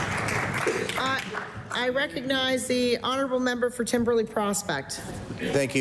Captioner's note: applause